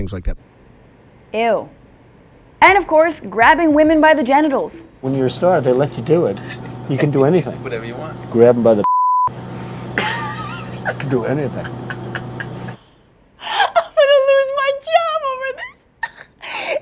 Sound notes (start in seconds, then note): 12.9 laughing